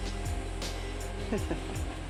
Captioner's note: laughs